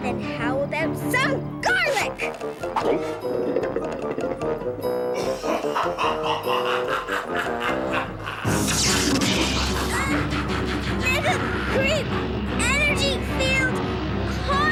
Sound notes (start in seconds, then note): 5.3 cackles; 8.6 zapping